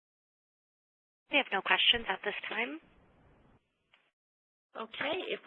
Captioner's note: long audio silence